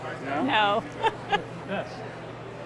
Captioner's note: laughs